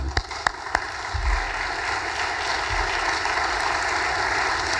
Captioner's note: audience applause